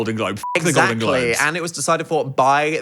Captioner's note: beep